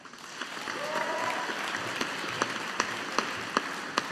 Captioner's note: audience applauding